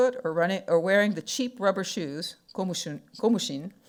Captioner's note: speaking foreign language